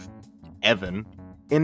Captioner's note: with disgust